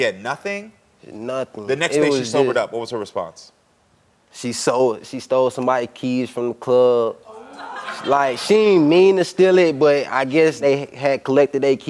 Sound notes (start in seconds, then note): 7.3 audience exclaiming